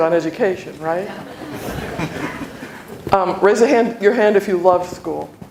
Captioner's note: laughter